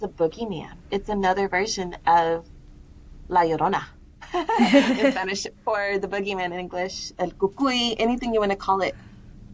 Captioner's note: laughter